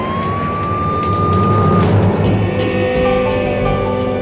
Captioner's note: siren wailing; suspenseful music